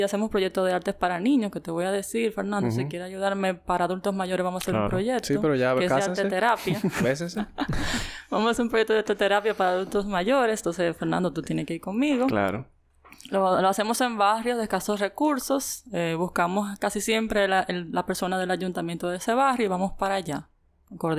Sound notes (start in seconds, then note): 6.9 laughs